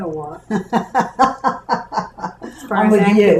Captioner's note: laughter